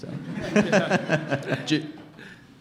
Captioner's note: laughs